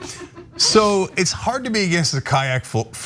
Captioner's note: laugh